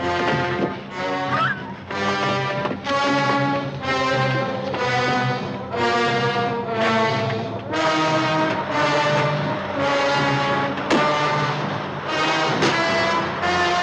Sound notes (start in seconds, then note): 1.3 gasps loudly